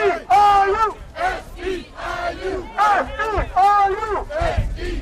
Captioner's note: chanting